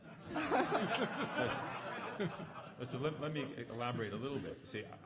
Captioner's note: audience laughing